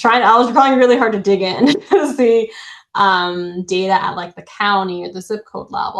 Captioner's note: chuckles